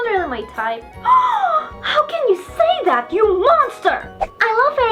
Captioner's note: gasp